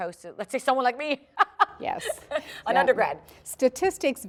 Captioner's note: laughter